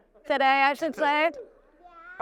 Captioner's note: chuckles